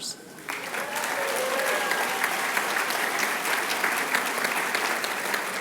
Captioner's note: applause